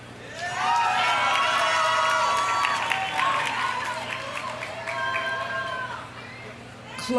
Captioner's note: audience cheering; audience applauding